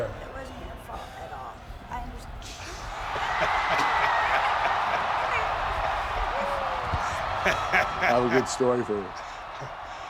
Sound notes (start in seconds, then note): 2.8 laugh; 3.1 applause; 7.1 laugh